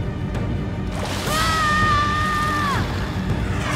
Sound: screaming

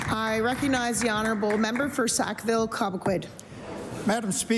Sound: applause

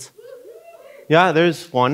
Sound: audience whooping

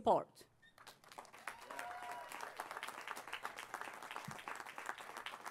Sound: applause

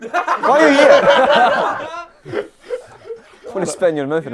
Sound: people laughing

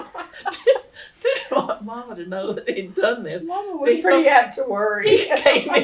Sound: laughter

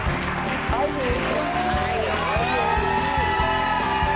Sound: audience cheering

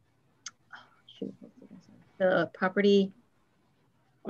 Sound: tuts

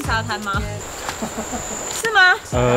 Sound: laughs

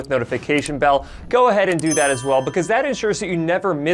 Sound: bell ringing

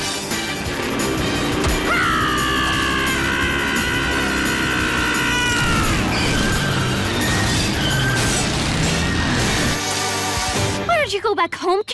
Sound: screaming

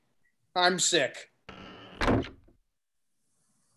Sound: cabin door bursts open

